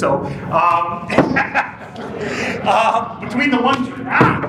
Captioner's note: laughs